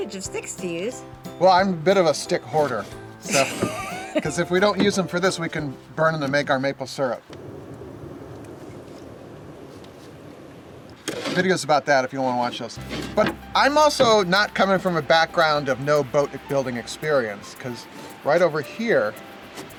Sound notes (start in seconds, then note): 3.2 woman laughs; 7.2 fire roars